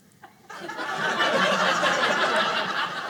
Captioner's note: audience laughing